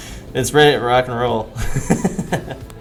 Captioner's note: laughing